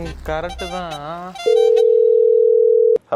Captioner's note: phone rings